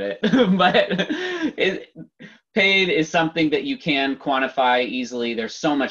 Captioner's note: laughs